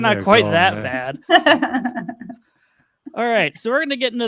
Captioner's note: chuckles